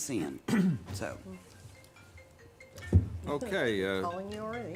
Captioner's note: phone ringing